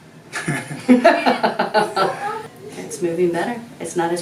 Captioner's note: laughter